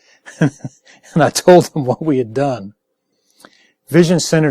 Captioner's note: laughing